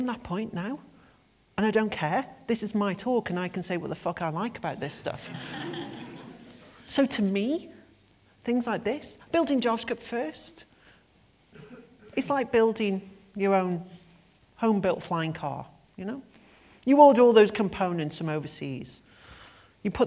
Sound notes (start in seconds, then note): 5.2 laughter